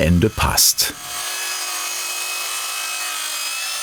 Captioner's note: sawing